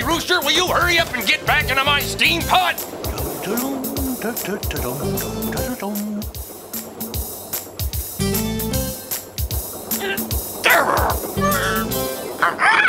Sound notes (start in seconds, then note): 3.1 donkey humming; 10.6 grunting; 12.6 squawks